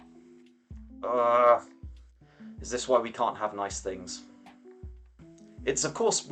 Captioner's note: groan